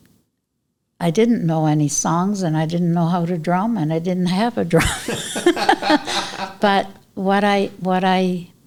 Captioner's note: laughter